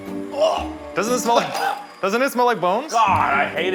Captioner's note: Keith gags